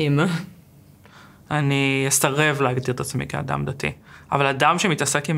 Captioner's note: Hebrew